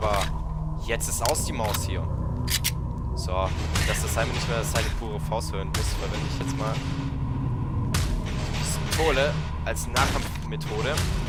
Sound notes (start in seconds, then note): 2.4 Glock 17 Reload; 3.5 punch noises again